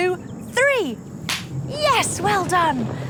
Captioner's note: claps